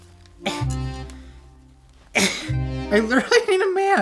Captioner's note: groaning